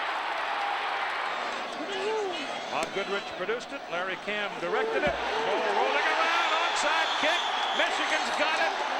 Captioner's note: cheering and applause